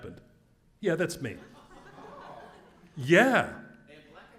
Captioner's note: laugh